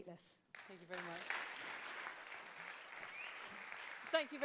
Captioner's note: applause